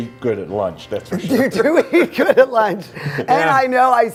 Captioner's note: laughter